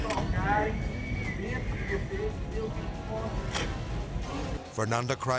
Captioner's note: camera clicks; continues speaking Portuguese